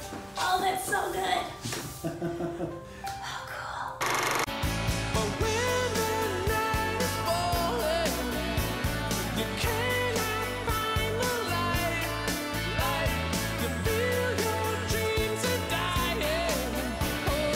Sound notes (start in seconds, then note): 2.0 laughing; 3.1 whispering